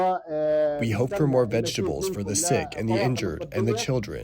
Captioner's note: through translator